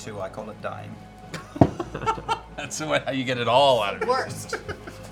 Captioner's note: laughs